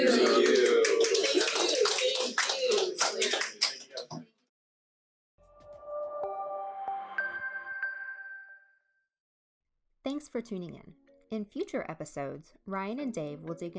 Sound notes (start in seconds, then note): 1.8 short applause; 5.4 gentle music